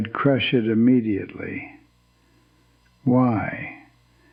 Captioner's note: whispers